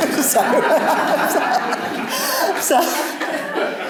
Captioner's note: laughter